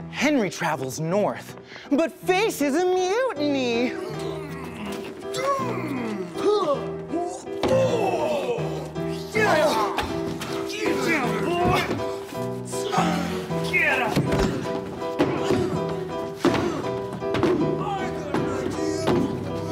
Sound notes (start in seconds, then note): 3.9 grunts and shoves; 8.0 punching noises!; 12.2 piano music punctuates this brutal scene